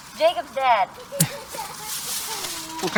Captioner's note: baby laughing